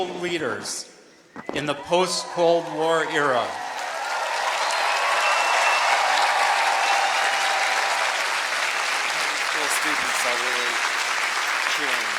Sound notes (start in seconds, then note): 3.4 applause